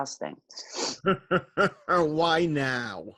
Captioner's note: laughs